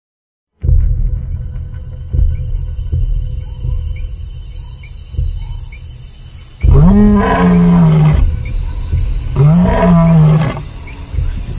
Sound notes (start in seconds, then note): 2.2 tropical forest sounds; 6.6 wild animal sounds